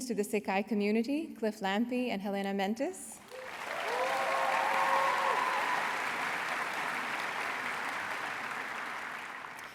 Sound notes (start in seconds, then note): 3.2 applause